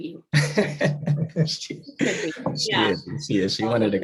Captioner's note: laughs